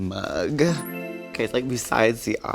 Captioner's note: chimes chiming